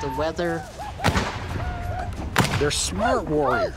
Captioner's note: gunfire